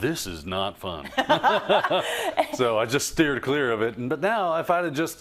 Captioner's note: laugh